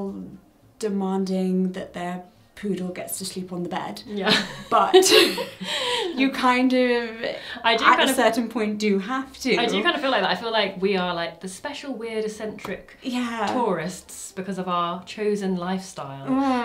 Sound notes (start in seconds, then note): 4.7 laughs